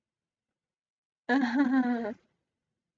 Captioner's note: chuckle